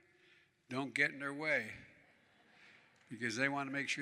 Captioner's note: laughter